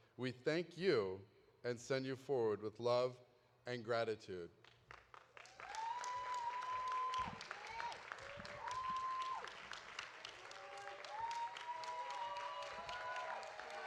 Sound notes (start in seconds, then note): 4.8 audience applauding; 5.5 audience cheering